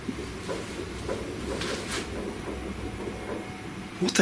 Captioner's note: tapping